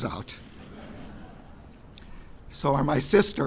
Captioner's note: laughter